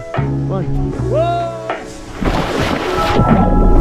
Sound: screams; ambient music

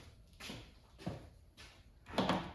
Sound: footsteps

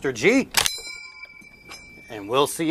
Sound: ping

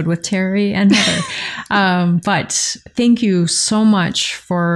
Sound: laughter

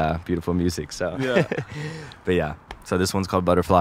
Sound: laughing

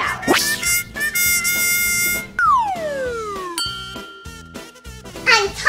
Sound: whooshing; triumphant music

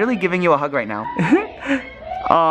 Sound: laughing

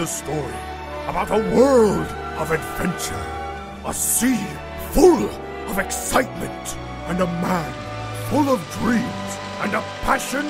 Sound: excitement

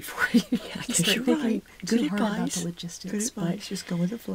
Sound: laughing

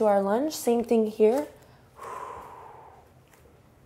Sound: exhales

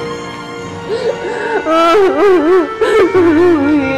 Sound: crying

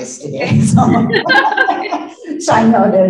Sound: laughing

